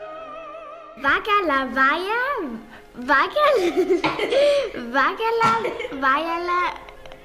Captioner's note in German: Lachen